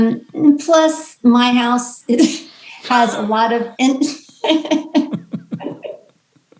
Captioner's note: laughs